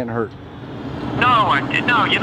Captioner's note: traffic sounds